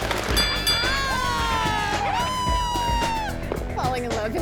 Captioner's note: girls cheering